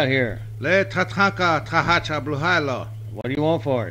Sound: native American speaking foreign language

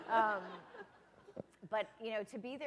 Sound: laughter

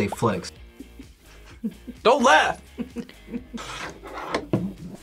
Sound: laughs

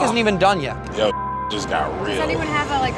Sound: beep

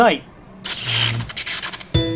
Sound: electrical power surge; theme music

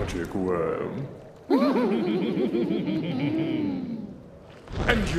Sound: laughing

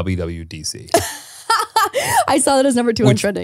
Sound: laughing

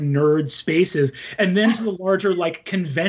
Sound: chuckles

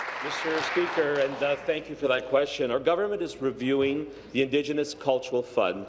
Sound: applause

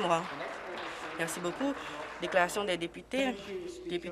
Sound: applause

